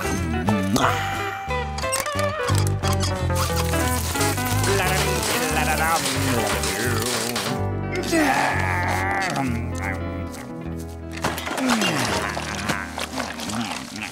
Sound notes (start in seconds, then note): 4.5 humming; 7.9 yawning